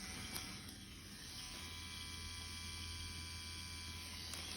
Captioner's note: machine whirring